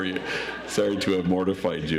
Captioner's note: audience laughs